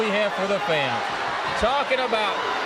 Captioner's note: crowd cheering